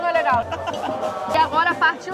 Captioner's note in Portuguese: risos